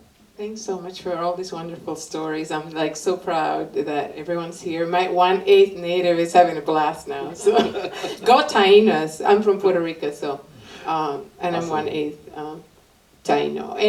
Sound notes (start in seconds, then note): 7.3 laughter